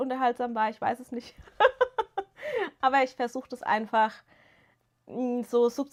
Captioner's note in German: gelächter